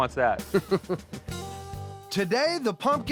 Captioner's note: chuckles